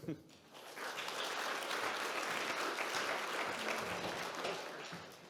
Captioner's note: audience clapping